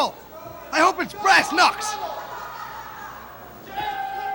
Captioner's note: crowd chatter